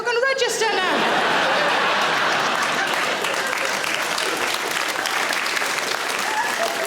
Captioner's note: audience laughing; audience applauds